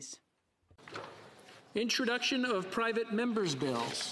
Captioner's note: speaking French